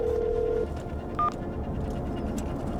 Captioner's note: phone beeping